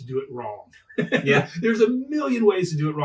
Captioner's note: laughing